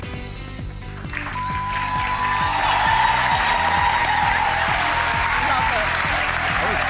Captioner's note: audience cheers